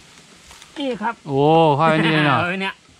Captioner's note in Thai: หัวเราะ